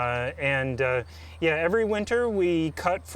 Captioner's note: birds chirp